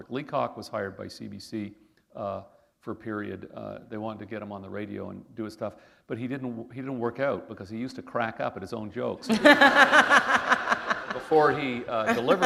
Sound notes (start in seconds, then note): 9.2 laughter